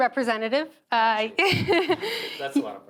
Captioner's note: chuckles